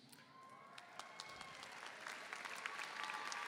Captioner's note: applause